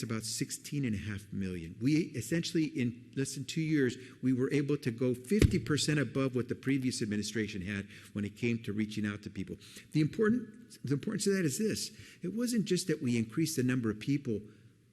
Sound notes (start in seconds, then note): none